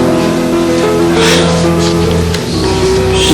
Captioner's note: Benj sighs